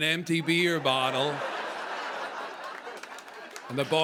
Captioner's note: laughter